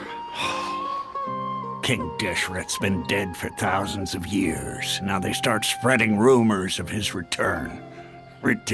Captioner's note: sigh